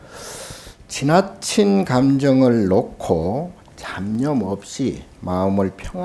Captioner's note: speaking Korean